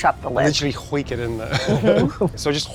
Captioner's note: laughs